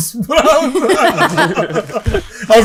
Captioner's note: all chuckle